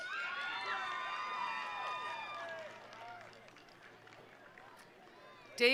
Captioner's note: attendees applauding; attendees cheering